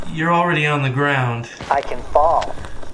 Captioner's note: scratchy robot voice; scratchy robot voice